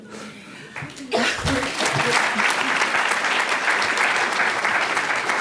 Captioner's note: applause